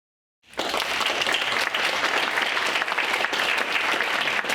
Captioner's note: audience applauding